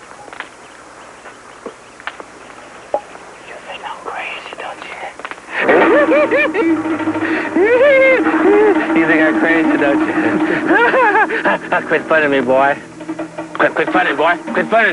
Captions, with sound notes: (whispers) You think I'm crazy, don't ya? (manical giggling) You think I'm crazy, don't ya? (laughter) Quit frontin' me boy. Quit frontin' me boy, quit frontin'!